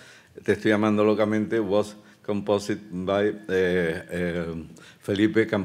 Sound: speaking Spanish

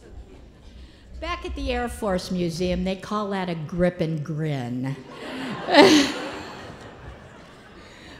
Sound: laughter

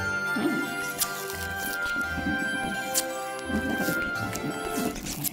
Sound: mischievous music; film reel scratching

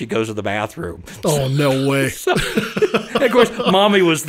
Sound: laughs

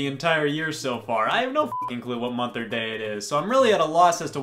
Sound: beep

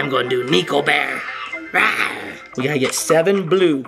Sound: roaring

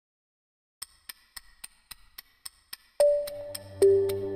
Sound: clock ticking

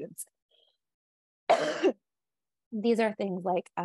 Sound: coughs

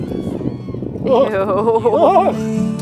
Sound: exclaiming

